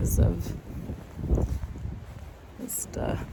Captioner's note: wind gusts